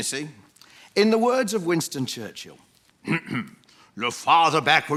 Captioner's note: impersonates Churchill